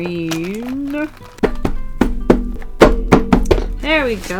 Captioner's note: banging on the markers